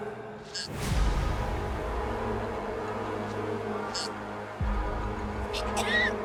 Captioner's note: dramatic music; Mischa gagging; Misha coughing